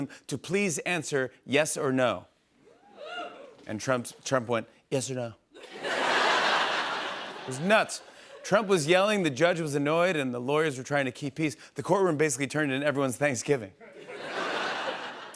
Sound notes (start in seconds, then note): 5.6 laughter